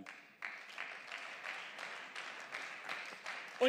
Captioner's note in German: Beifall